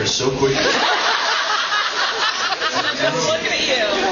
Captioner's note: laughs